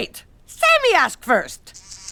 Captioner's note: buzzing